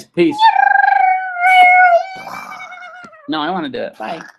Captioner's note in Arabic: ضجيج الطائرة